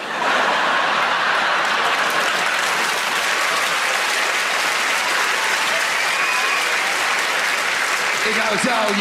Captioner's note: audience laughter and applause